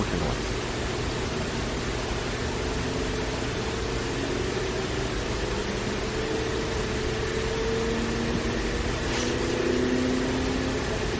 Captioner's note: fan noise getting louder